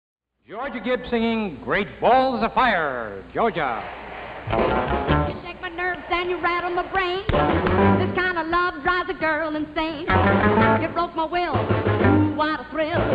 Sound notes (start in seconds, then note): 3.5 audience applauding; 4.4 lively upbeat music